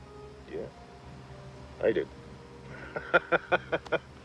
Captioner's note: laughs